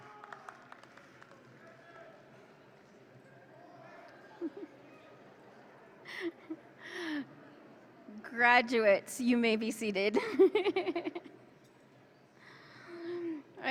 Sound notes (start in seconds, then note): 0.0 audience claps; 11.2 laughs